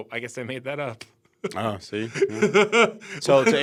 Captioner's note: laughs